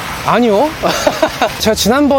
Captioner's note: laughs